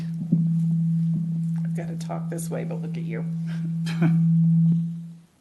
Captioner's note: microphone feedback